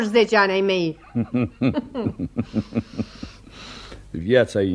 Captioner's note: both laugh